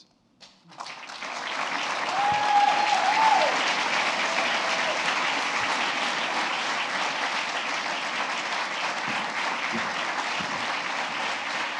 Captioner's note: applause